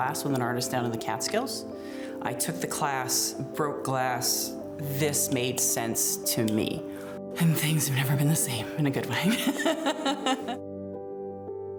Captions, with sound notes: with an artist down in the Catskills. I took the class, broke glass, this made sense to me. And things have never been the same, in a good way. (laughs)